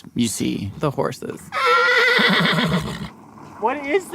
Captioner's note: horse neighs